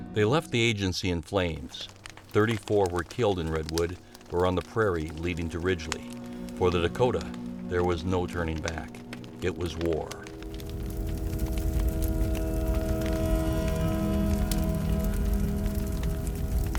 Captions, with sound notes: They left the agency in flames. 34 were killed in Redwood or on the prairie leading to Ridgely. For the Dakota, there was no turning back. It was war. (fire crackling) (ominous music continues)